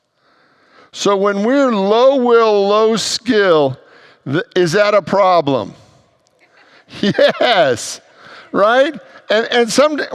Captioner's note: congregants laugh